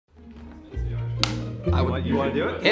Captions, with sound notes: (clapperboard snaps) - I want ... - You wanna do it?